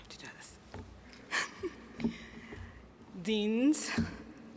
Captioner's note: chuckles